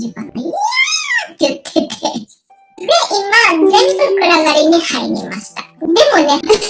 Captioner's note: laughs